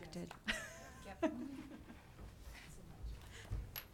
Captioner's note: laughing